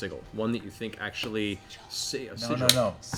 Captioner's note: whispers